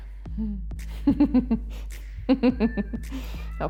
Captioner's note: laughs